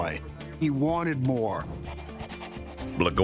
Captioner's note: pen scratching